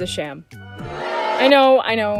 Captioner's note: crowd booing